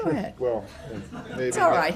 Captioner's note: laughter